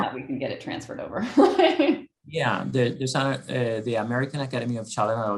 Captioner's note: laugh